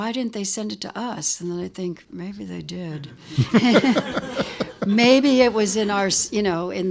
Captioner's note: laughter